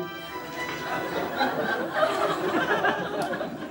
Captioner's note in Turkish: Kahkaha sesleri